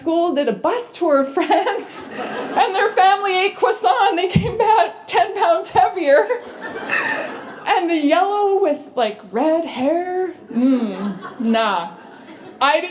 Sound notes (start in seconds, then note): 6.2 laughter